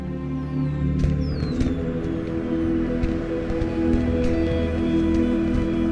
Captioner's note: fireworks whistling and booming